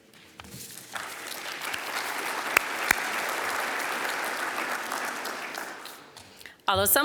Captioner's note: applause